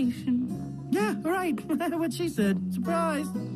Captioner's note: giggling